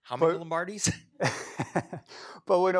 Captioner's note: laughs